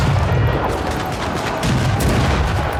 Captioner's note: cannons blasting